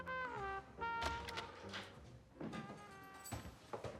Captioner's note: door opens